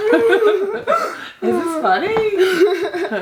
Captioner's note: laughing